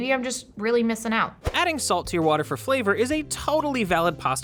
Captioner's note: voice-over